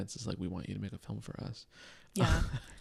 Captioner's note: laughs